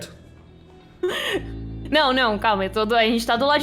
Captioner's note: laugh